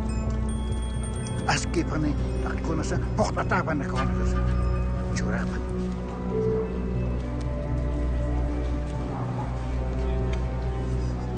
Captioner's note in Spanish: Continúa hablando en aymara